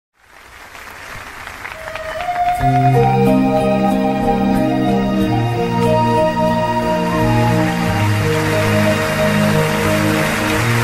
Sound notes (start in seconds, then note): 0.2 applause